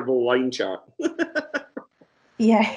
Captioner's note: laughs